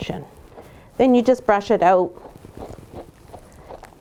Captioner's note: soft brushing